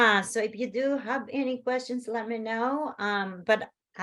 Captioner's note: none